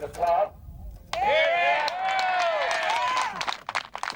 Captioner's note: crowd